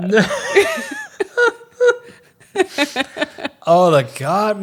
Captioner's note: both laughing